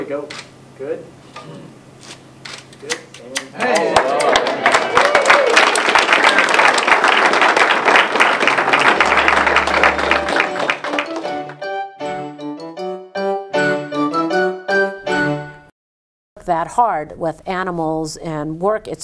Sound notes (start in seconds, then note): 3.9 applause